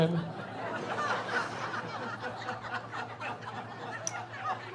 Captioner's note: laughing